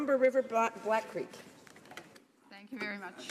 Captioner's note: speaking in French